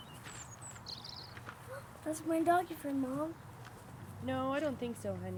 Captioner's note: gasps